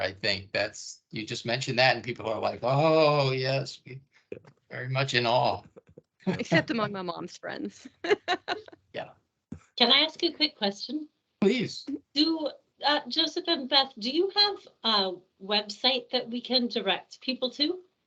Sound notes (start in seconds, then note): 6.2 laughing